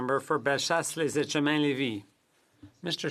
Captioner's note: speaking French